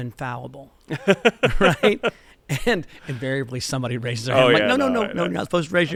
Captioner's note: laughter